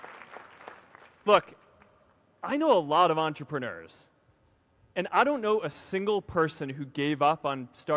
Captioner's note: applause